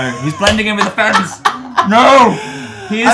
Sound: laughs

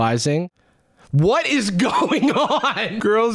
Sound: laughing

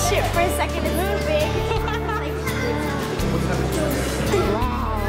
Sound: laughing

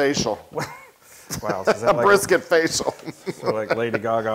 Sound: laugh

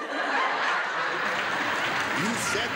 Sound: laughter and applause

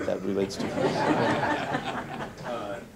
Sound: laughter

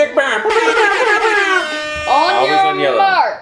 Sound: airhorn blowing

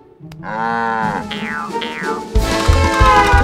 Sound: moos; honking

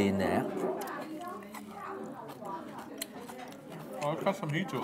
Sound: chewing sounds

